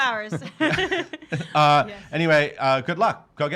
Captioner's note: laughing